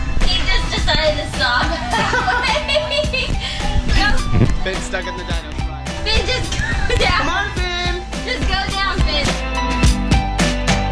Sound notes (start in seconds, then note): 1.4 laughing